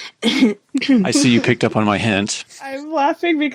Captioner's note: clears throat